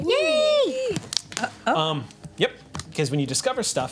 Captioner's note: group cheers